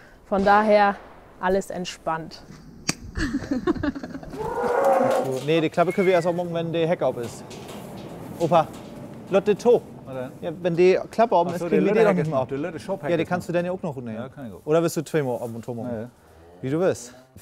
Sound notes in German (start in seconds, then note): 3.1 Sie lachen